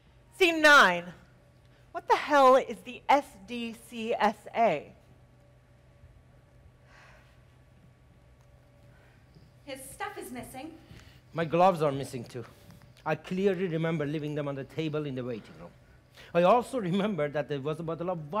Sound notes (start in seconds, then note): none